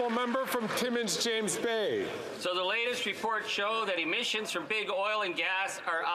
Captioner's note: some Applause